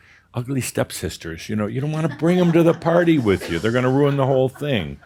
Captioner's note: some chuckles